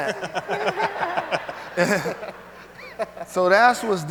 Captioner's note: speakers laughing